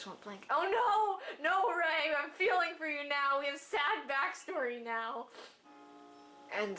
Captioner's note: sniff